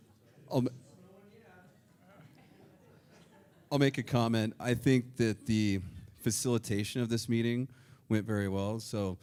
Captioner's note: laughter